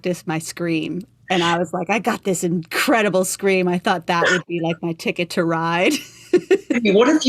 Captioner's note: laughter